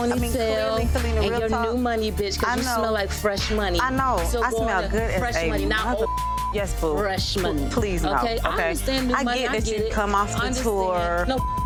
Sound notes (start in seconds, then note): 5.6 beep